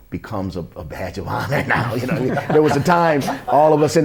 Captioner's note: laughter